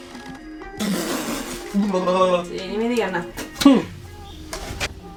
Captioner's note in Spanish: tos y ruidos raros!